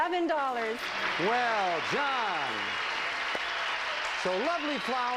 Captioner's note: audience applauding